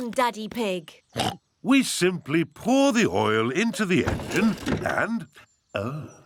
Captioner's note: oinks